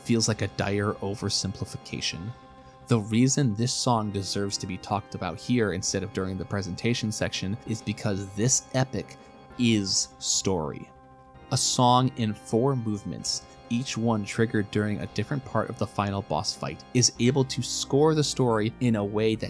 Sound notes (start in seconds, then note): none